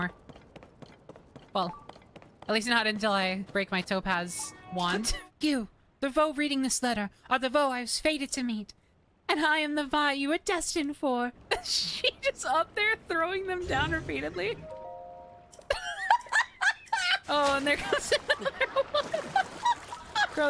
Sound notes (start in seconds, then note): 11.5 laughter; 15.6 laughter